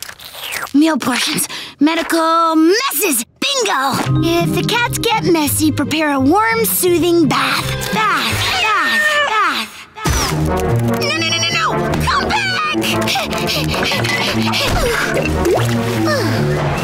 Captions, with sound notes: Meal Portions, Medical... Messes! Bingo! If the cats get messy prepare a warm, soothing bath. [echoing] Bath, bath, bath, bath. No, no, no, no, no! Come back! [panting] Phew.